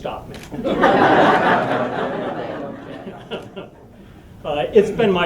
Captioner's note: laughter